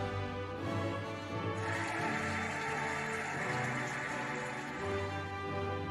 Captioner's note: cheering and applauding